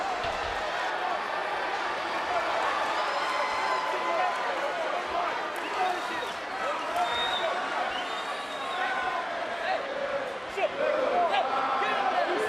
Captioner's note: crowd booing